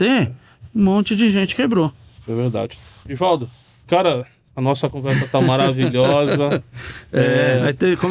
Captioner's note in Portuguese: risadas